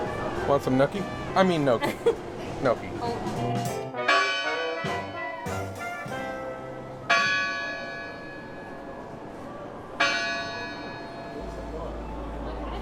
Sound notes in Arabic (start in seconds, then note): 4.3 رنين أجراس الكنيسة